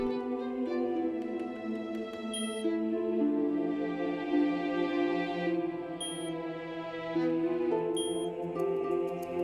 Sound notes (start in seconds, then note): 2.3 beeping